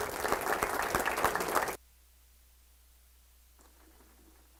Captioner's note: audience applauds